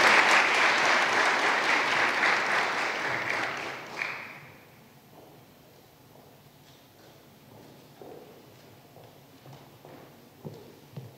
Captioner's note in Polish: oklaski